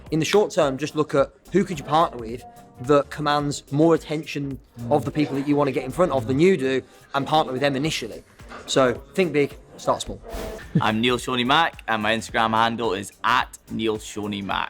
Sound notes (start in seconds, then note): 10.1 abrupt swooshing